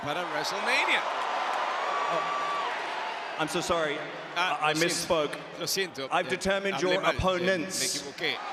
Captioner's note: applause